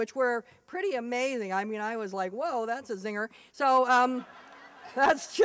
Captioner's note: laughter